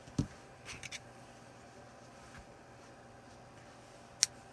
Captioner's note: soft rustling